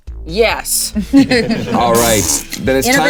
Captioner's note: players chuckling